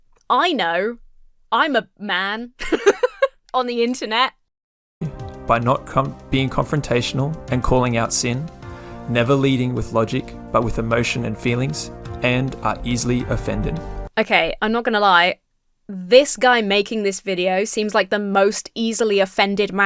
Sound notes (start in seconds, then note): 2.6 laughs